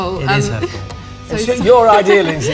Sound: wryly

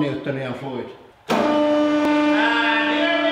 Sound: shouting over sounds of machinery

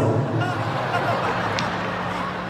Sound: laughing

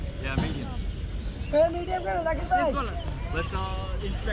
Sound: speaking local language

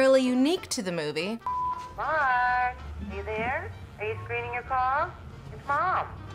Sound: beep

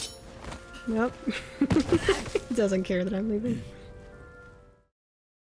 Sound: laughs

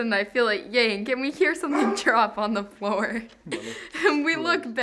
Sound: laughing

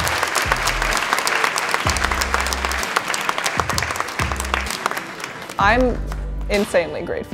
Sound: applause

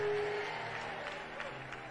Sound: congregation cheering

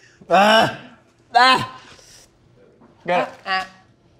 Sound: grunting

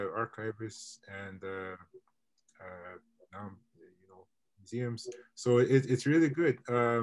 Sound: mutters

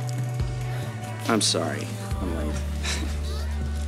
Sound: chuckles

